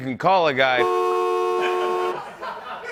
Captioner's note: car horn blaring; laughter